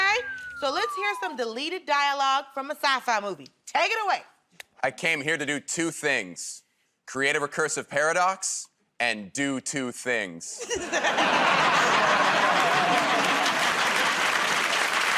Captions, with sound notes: Okay. So let's hear some deleted dialog from a sci-fi movie. Take it away. -I came here to do two things -- creative recursive paradox and do two things. [ Laughter ]